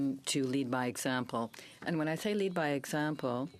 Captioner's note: speaking french